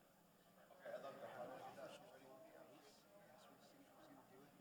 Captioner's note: attendees chattering